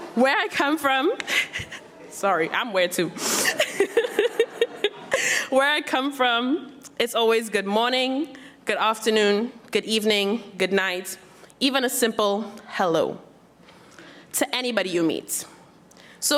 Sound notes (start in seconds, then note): 1.2 laughs; 3.4 laughs